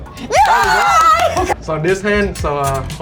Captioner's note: cheering